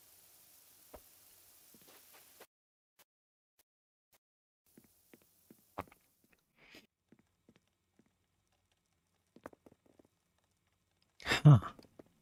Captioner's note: footsteps